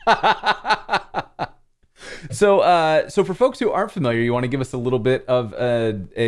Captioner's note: laughter